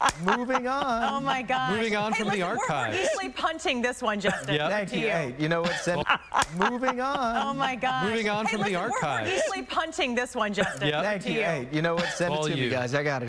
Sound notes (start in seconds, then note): 0.7 laughter